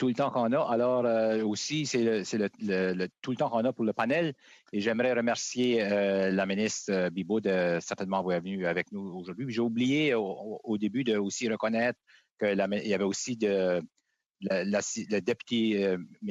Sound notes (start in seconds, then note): 5.5 speaking French